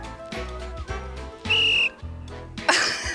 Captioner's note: trills whistle; laughs